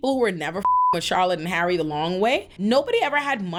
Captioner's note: beep